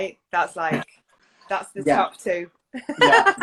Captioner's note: laughs